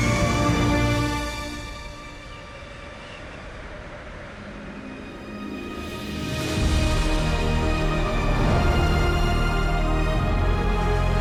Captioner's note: jet engine rumbling